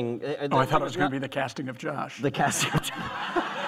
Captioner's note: laughter